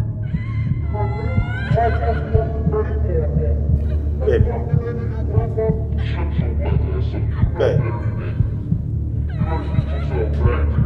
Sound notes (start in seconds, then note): 6.5 shouting Screaming